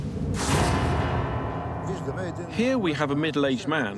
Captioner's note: speaking Bulgarian